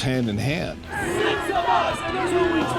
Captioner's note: crowd chanting